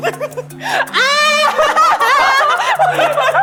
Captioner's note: yelling